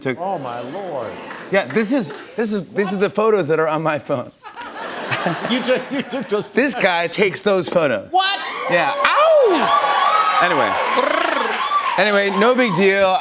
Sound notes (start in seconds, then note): 4.4 laughter; 8.2 cheers and applause